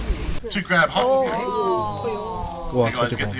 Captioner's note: beeping